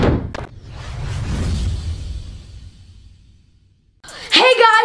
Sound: intense sound effect

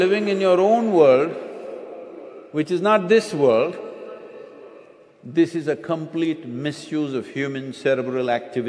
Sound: few laugh

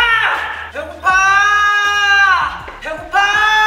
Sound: screaming echoes through the silent filming site

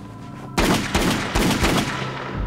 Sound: gunshots

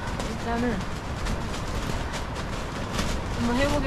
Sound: the sound of the tent flapping is terrifying

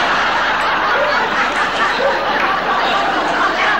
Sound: audience laughing

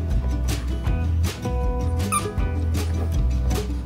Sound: toy squeaks

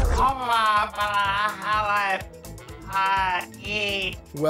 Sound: talking gibberish

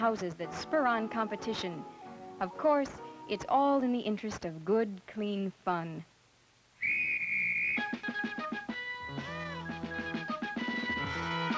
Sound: whistle blowing

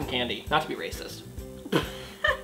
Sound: laughs

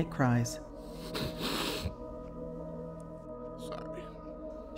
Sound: sniffling

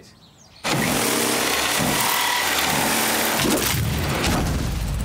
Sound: sawing sound

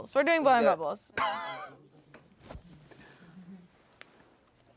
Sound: laughing

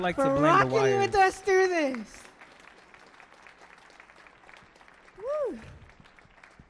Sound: audience applauds

